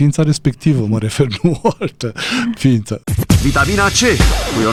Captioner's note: laughter